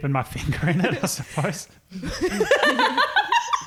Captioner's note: chuckles; laughing